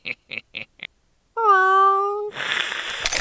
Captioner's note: laughing; meowing; hissing